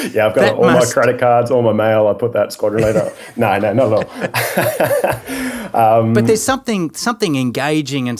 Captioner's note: laughing; both laughing